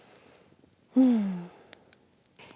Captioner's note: happy sigh